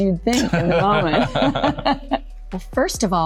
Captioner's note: Laura and Liam laughing